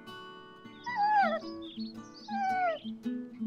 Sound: dog whines

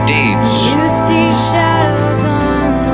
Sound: emergency alert tone

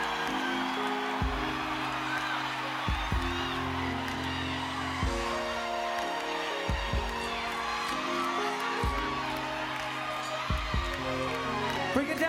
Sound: applause

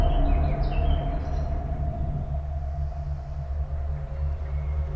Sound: birds chirping

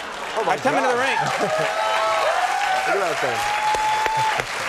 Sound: audience cheering; audience laughing and cheering; audience clapping

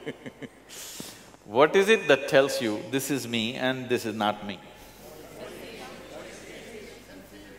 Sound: laughs

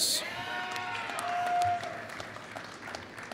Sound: applause

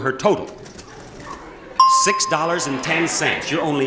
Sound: bell chimes

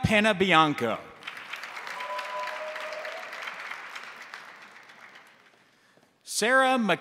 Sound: crowd applauding; crowd cheering

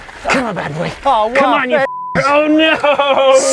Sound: beep

